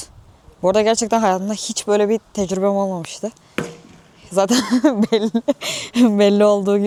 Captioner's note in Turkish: kahkaha